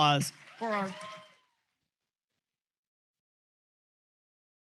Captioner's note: cheers,applause